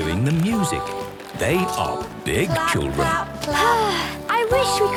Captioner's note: Belinda sighing